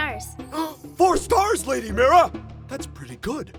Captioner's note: gasp!